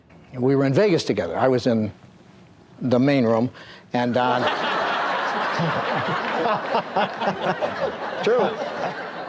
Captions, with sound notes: - And we were in Vegas together. I was in the main room and Don... [audience laughs] [Newhart laughs] - True.